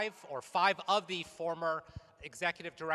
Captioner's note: none